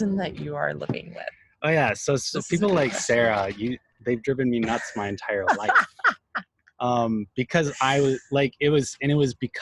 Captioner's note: laughs